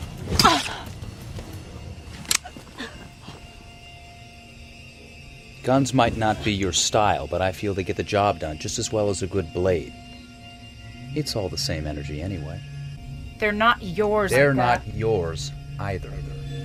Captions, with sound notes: [knife stabs] [gun cocks] Guns might not be your style, but I feel they get the job done just as well as a good blade. It's all the same energy anyway. They're not yours, Micah -- They're not yours either.